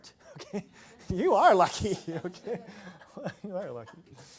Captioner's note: laughs